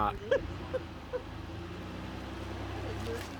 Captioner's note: laughs